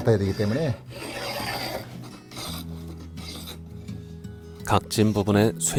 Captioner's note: planing sound